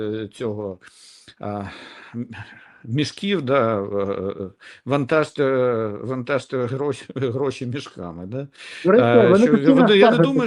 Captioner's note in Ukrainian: сопіння